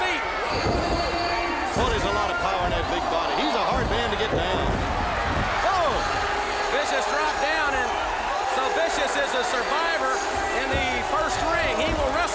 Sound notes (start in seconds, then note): 5.2 crowd chatter